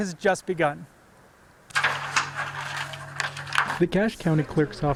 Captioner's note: papers rustling